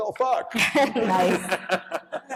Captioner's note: laughter